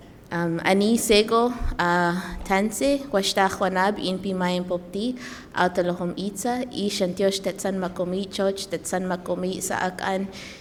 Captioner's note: addresses audience in traditional language